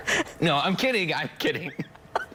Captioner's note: laughter